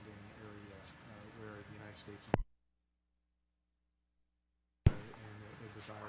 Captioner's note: audio cuts out